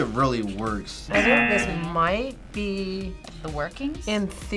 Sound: buzzer rings

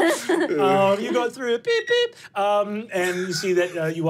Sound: laughing; beeping

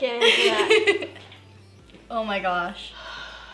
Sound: laughing

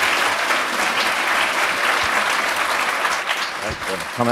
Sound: applause

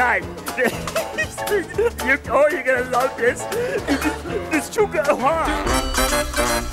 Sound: laughs

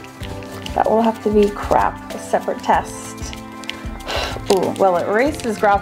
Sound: blows

